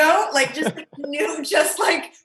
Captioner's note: Andy laughs